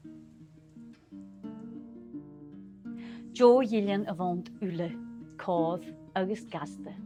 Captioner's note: storytelling in Gaelic